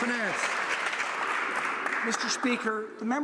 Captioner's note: some Applause